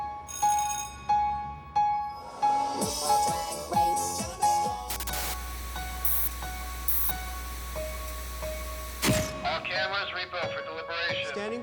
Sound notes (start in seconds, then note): 0.2 bell ringing; 5.0 TV hissing